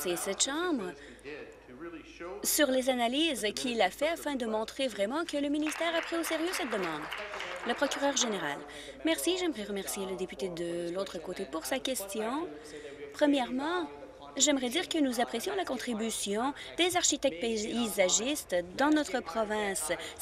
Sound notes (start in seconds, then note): 9.5 applause